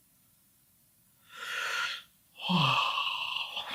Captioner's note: sighing